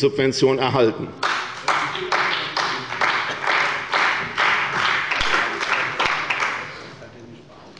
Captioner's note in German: Beifall bei Abgeordneten der CDU und des BÜNDNISSES 90/DIE GRÜNEN